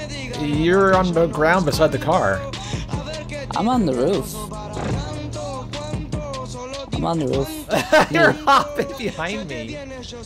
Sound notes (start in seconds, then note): 7.5 laughs